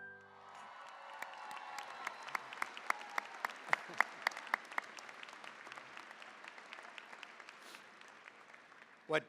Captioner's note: cheering, applause